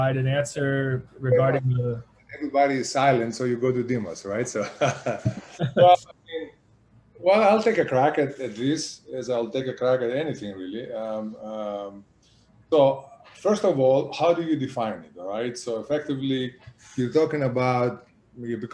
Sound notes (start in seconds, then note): 4.6 laughs